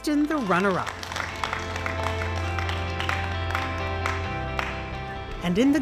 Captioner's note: people applaud; bright music